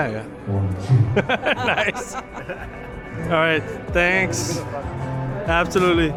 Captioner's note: laughs